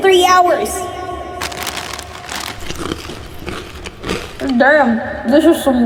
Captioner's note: more rustling and chewing